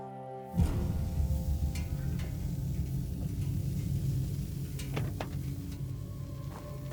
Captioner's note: gentle music; intense music; car hissing